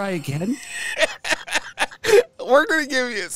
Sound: laughs

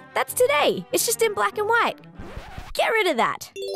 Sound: record scratches

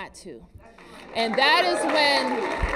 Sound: applause

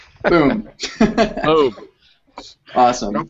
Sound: laughs

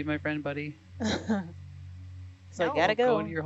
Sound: woman laughing

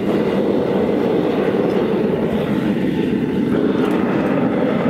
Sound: fire roaring continued

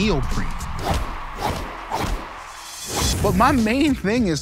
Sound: air whooshes

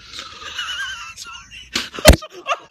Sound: laughing

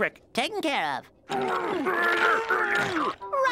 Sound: grunting

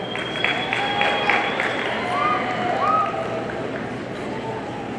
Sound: audience applauding

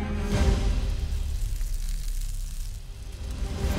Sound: sizzling

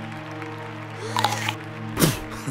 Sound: children gasp; laugh menacingly

